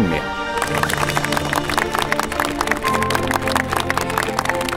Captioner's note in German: Applaus